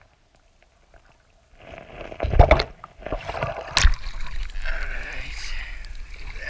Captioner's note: water splashing